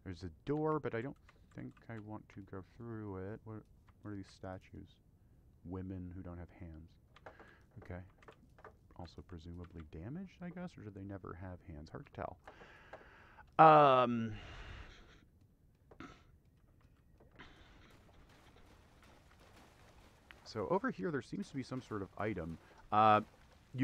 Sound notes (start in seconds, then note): 14.2 old man breathing